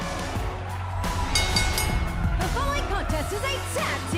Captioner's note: bell